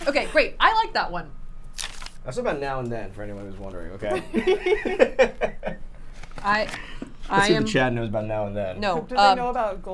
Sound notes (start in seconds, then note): 4.2 laughing; 4.7 laughs